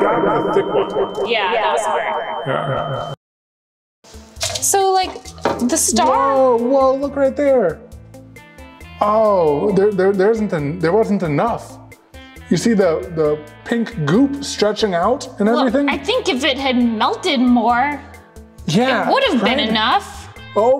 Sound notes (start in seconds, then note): 2.9 voices fade out